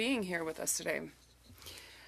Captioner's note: speaking French